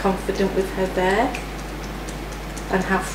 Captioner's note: fingers tapping